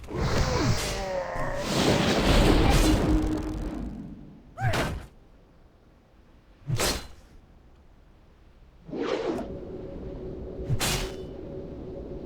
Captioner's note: grunts